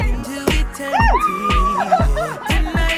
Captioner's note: woo-hoo sounds